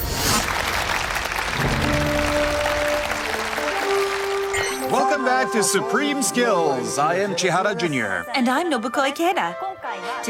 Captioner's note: applause